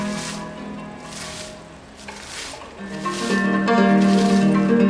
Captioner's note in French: none